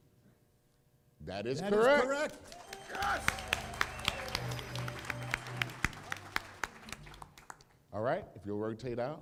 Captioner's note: applause